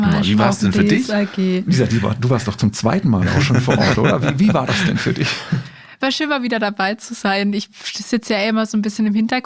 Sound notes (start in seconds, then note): 2.9 laughs